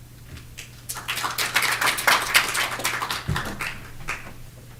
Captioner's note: audience clapping